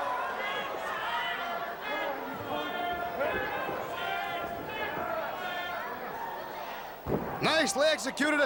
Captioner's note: crowd chatter